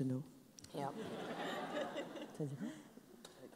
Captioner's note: laughs